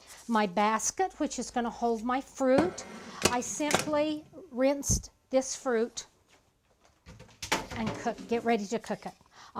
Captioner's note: clang